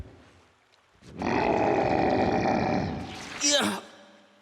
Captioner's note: growling